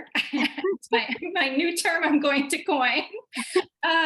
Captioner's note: laughter